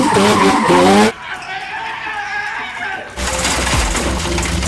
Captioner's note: tires screeching; shouting